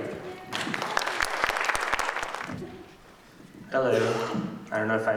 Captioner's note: applause